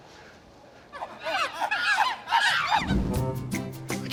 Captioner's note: monkeys chittering